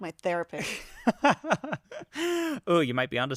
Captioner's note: laughs